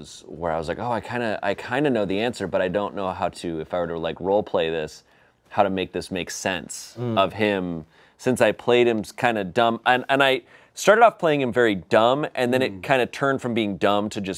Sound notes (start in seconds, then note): none